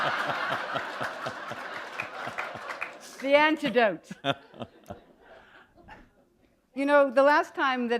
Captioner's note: laughter